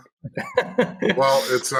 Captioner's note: laughing